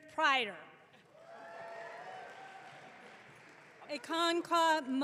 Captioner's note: audience clapping